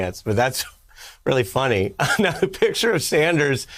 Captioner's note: laughter